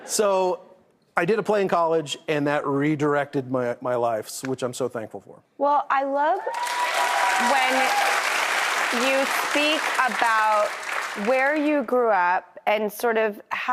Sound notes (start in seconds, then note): 6.4 audience applauding